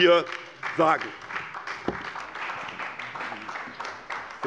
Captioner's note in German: Beifall bei der SPD